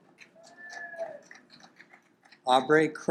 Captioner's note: audience applaud